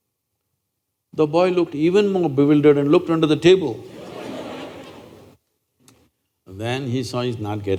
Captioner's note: laughter